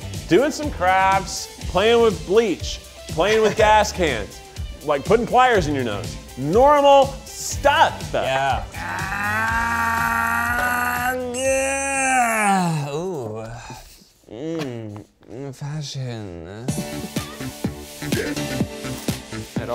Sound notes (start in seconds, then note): 8.6 groans